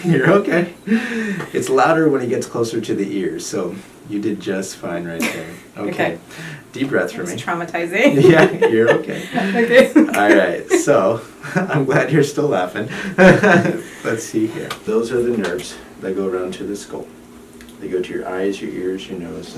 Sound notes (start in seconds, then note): 5.2 chuckles; 8.0 laughs; 12.8 laughs